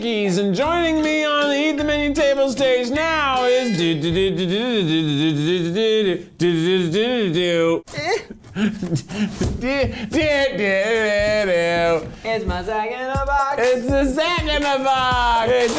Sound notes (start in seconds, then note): 3.5 humming; 8.2 humming; 8.2 rustling